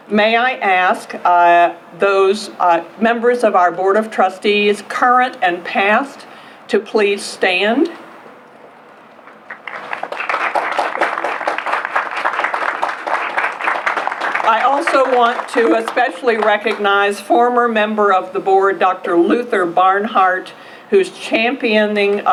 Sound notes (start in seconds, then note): 9.4 applause